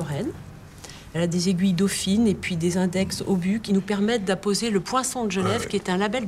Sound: foreign language

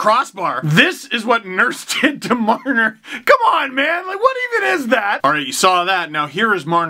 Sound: laughing

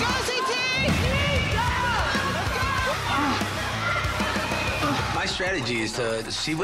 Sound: contestants shout

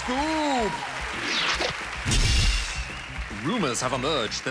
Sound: cheering, applause

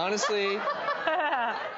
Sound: laughter

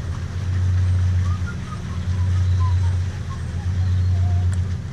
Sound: happily whistling!

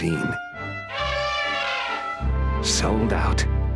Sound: elephant and Train Sounds

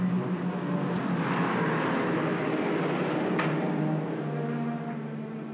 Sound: ominous music; aircraft roars overhead

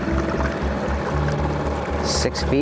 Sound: engine droning; gentle music continues

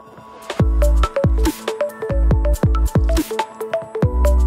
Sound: electronic tones

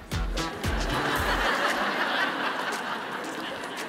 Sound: audience laughing

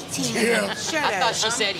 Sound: laughs

